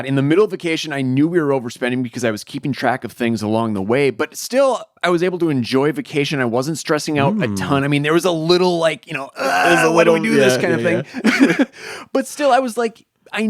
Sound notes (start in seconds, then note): 9.7 grunts